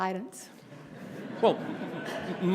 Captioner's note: laughter